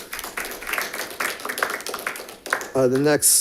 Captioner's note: audience applauding